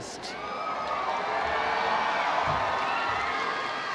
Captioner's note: audience cheering